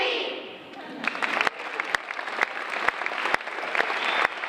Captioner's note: round of applause